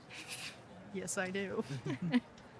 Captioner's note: chuckles